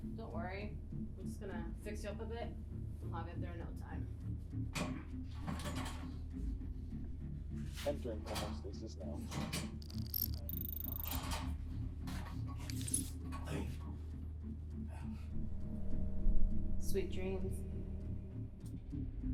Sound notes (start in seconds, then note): 9.8 digital whirring and beeping